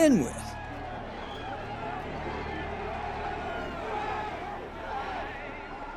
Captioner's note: indistinct conversations